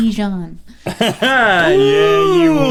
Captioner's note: laughs